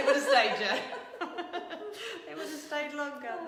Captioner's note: laughing